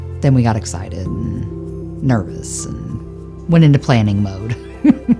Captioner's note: laughs